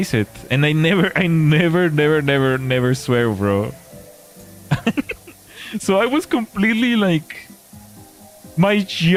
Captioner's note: laughter